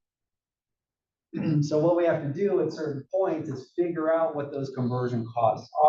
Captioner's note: cough